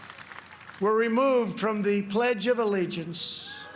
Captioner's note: applause